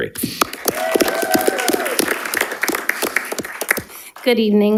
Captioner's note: audience applauding